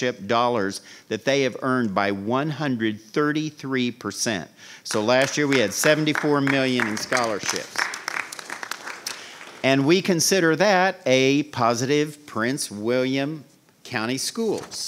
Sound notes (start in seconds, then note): 7.9 audience applauding